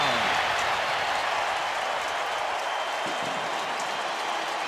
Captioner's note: crowd cheering